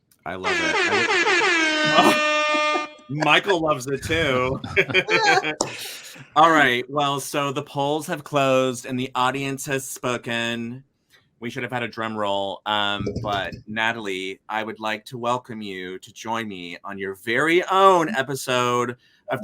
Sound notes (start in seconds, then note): 0.4 siren wailing; 5.0 all laughing